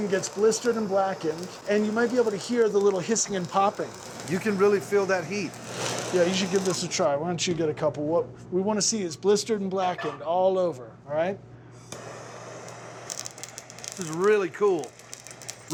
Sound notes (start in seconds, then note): 12.0 chili sizzling